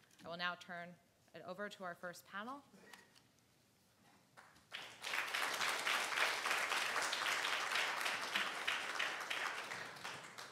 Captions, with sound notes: I will now turn it over to our first panel. (audience applauding)